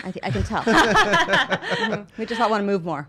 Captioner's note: laughing